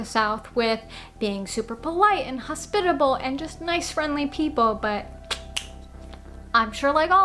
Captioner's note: tongue clicking sounds